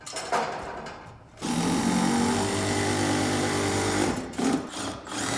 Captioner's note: screw drill whirring